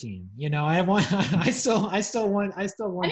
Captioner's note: laughs